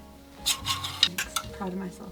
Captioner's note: gentle music; clothes hangers scraping